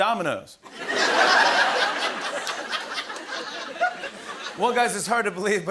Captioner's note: laughter